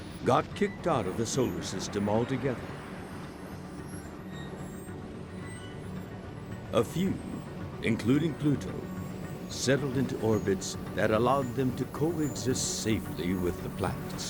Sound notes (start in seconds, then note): 2.6 solar system whirring; 2.9 celestial music